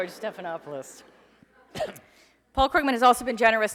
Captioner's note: laughing